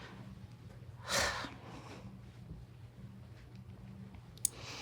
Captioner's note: sighing